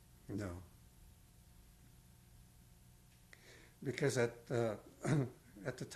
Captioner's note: pauses for 3 seconds